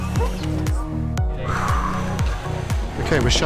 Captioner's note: Karen sighs